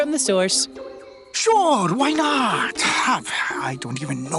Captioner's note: scoffs